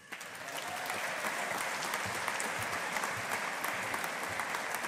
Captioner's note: audience applauding